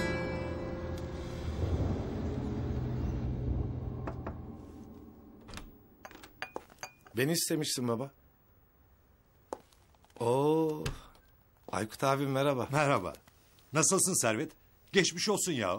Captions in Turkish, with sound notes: [KAPI SESİ] Beni istemişsin, baba. Oo. Aykut Abi merhaba. Merhaba. Nasılsın Servet? Geçmiş olsun.